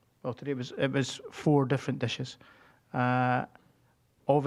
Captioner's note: none